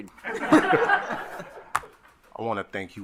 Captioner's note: group laughing